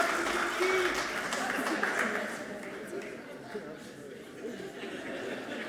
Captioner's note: audience laughing softly